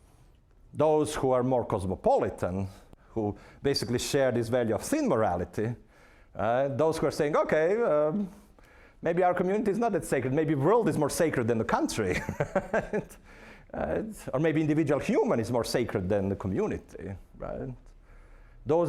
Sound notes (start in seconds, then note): 12.1 laughing